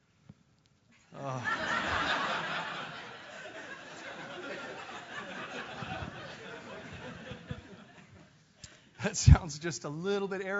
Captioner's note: laugh